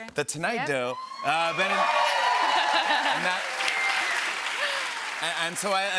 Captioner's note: cheers and applause